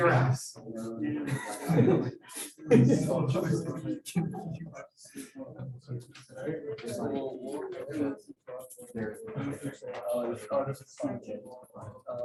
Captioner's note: background Discussion